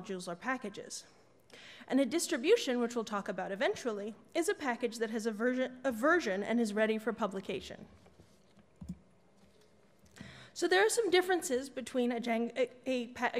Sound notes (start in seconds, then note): none